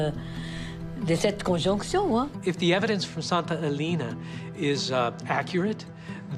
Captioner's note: in English